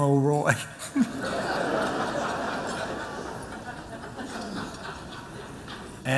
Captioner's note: laughter